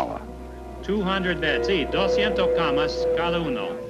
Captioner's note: Spanish